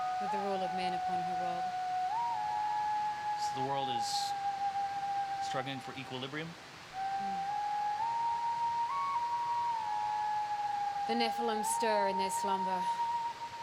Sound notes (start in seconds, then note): none